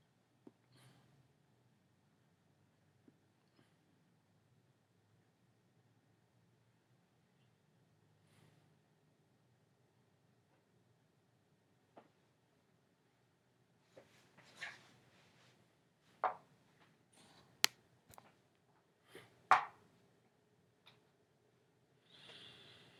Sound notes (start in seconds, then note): 0.1 silence; 14.6 quiet movement sounds